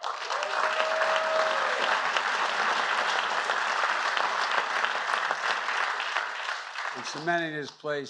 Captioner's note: applause